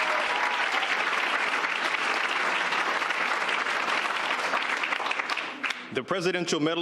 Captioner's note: applause